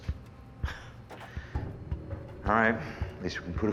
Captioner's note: chuckles